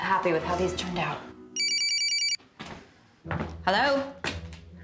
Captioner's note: cellphone rings